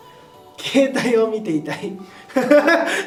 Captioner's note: laughs